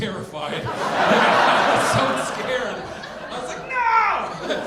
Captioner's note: audience laughing